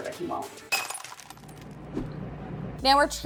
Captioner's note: glass shatters